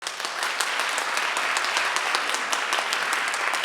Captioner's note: audience clapping